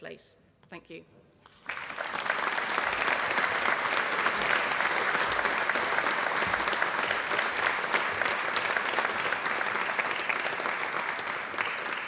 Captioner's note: applause